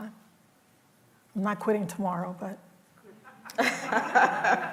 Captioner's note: laughter